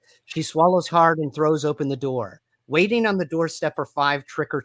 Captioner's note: none